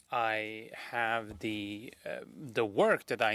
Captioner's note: speaking French